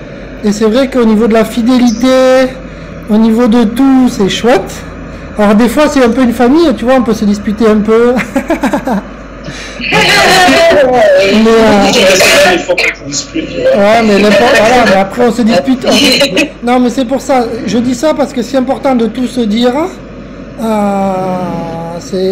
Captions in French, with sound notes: Et c'est vrai qu'au niveau de la fidélité, au niveau de tout... C'est chouette! Or des fois c'est un peu une famille tu vois on peut se disputer un peu [Rire] [Rire...] Mais après on se dispute... Non mais c'est pour ça je dis ça! Parce que c'est important de tout se dire. euh...c'est...